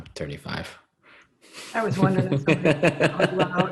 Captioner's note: laughing